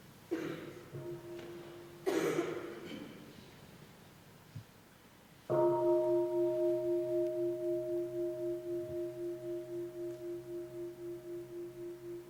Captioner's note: bell